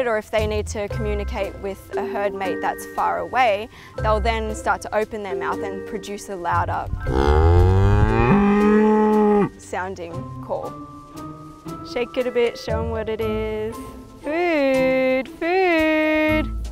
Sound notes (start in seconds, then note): 7.0 cow moos